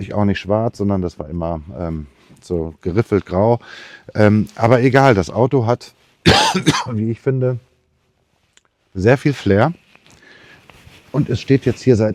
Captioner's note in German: husten